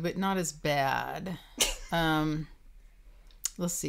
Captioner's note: laughing